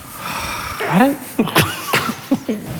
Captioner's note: farts; all chuckling